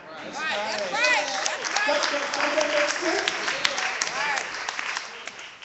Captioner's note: clapping